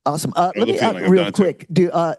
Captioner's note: faintly speaking